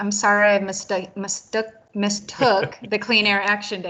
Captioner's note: laughing